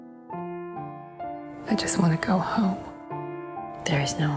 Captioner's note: voiceover